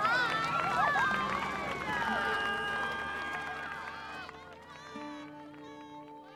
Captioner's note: cheering; cheering